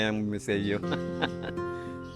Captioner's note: laughs